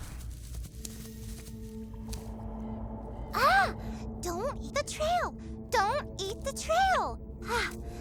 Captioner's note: gasps